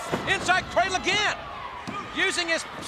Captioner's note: body thudding